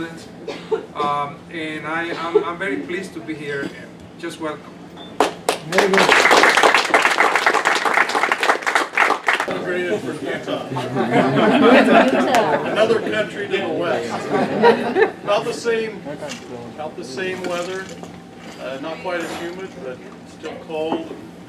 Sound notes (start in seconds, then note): 5.2 applause; 10.7 laughter